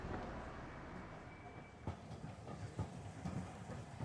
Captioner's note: train chugs mutedly